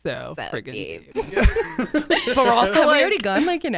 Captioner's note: everyone laughs